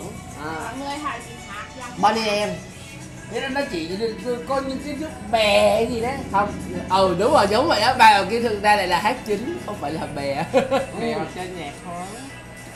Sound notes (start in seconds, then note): 9.3 laugh